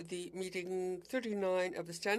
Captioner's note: speaking French